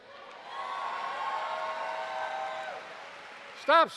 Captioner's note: applause